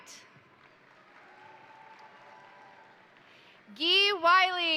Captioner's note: crowd applauding; crowd cheering